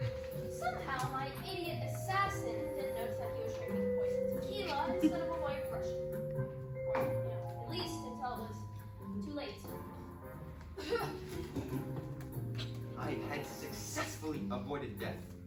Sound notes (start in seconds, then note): 10.8 Assassin idiotically coughs and collapses